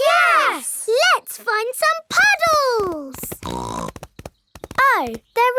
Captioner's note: snorts